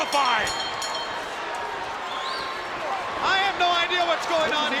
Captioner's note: spectators cheering